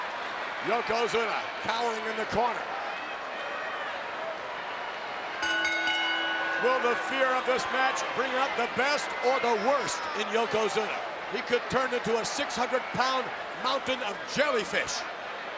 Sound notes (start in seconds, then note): 5.2 bell rings